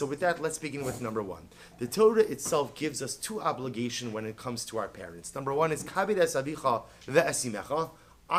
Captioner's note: Hebrew